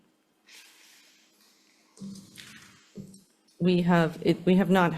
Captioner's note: paper rustling